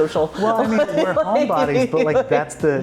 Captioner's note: laughing